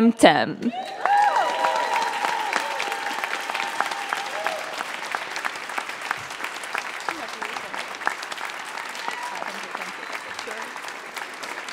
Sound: applause

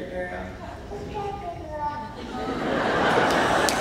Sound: laughing; applauding

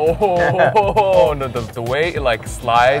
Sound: laughing

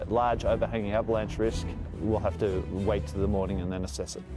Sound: voiceover

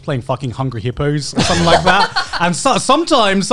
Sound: laughing

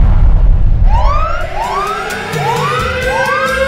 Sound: kaboom; alarms

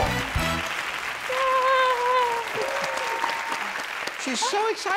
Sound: lively triumphant music; audience clapping; cheering

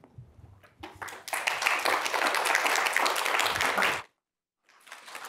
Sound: audience applauds

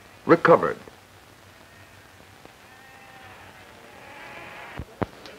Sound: sheep bleating; indiscriminate chatter

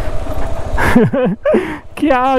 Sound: laughs

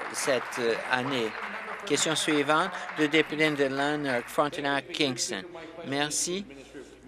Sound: applause

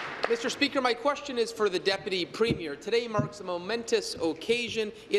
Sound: applause

